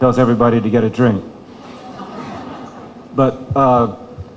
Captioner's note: chuckling